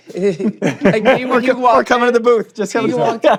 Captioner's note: laughing; laughs